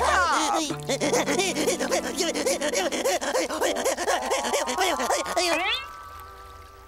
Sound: crying

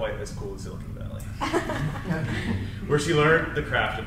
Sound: crowd laughs

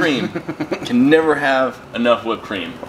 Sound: laughing

